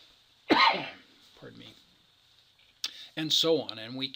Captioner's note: coughs